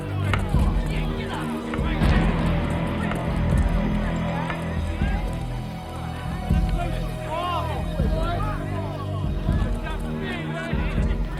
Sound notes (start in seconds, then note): 3.6 dramatic music; 3.6 group clamoring